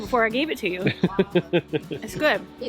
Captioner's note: laughing